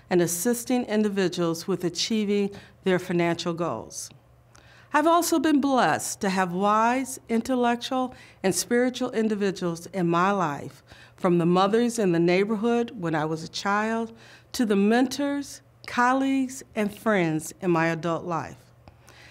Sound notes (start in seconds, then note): none